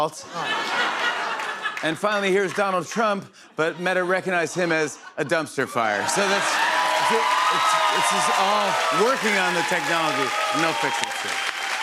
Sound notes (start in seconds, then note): 0.1 laughter; 5.8 cheers and applause